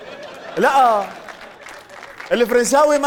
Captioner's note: in Syrian accent